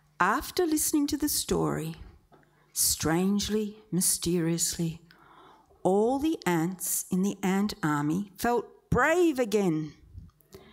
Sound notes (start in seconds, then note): none